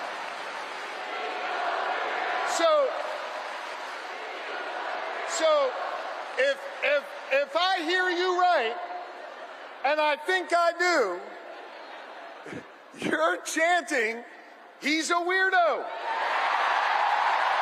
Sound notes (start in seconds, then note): 7.6 crowd chanting